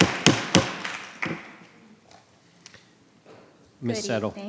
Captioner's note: gavel banging; audience applauding